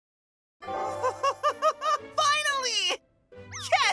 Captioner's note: chuckles